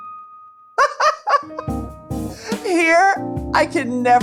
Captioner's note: Carla laughing